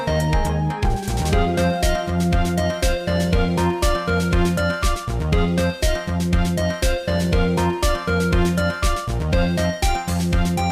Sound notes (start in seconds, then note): none